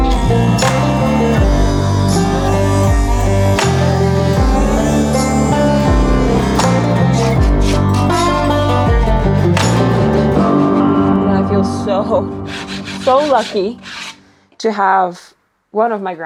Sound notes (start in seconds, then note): 0.2 saw whirring; 7.6 tool scraping